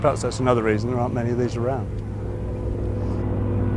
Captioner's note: engine roaring